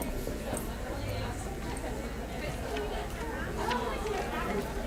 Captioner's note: people chattering